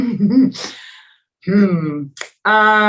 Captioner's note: laughs